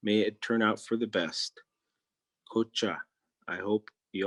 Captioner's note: speaking in Native Language